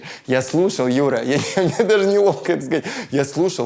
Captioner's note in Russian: смеясь